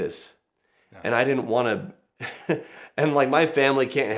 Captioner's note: laughs